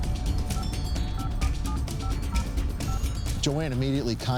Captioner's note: phone buttons beeping